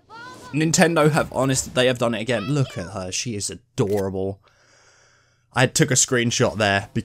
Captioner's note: sigh